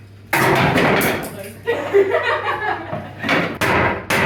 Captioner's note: laugh